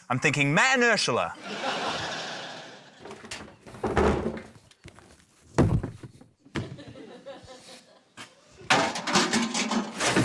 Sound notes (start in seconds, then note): 1.3 laughter; 4.0 bin rattles; 5.6 soft thump; 8.7 clang!